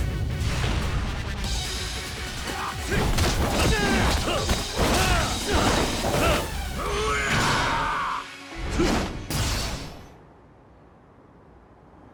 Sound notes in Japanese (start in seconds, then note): 4.9 うめき声; 6.8 叫び声